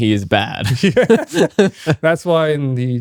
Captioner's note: both laughing